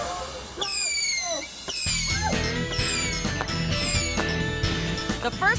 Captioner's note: firecrackers booming